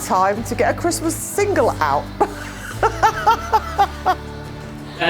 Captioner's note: laughs